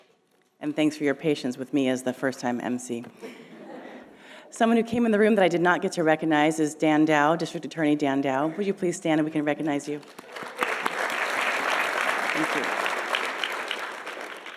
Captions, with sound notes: And thanks for your patience with me as the first-time emcee. (audience laughing) Someone who came in the room that I did not get to recognize is Dan Dow, District Attorney Dan Dow. Would you please stand, and we can recognize you? (audience applauding) Thank you.